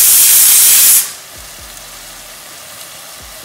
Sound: pan sizzling

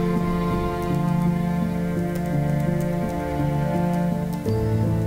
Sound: keyboard typing

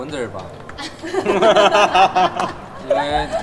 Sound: laughs

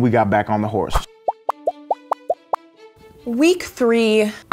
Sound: popping sounds

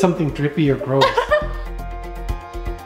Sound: laughing; dramatic music

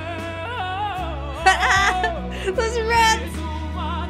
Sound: laughing

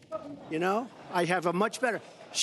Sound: laughter

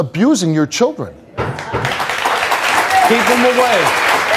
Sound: applause

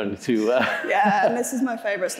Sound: chuckling

